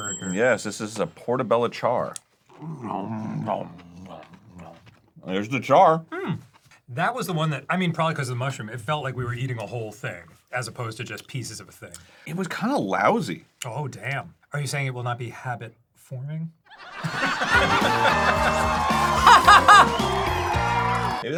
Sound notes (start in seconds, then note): 2.0 nom noms; 16.6 recorded laughtrack; 19.1 jolly fake laugh